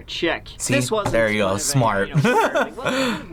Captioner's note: laughs